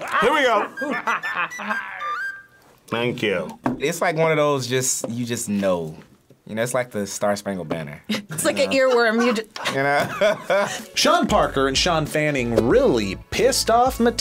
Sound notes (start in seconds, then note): 8.1 both laugh; 8.1 laughs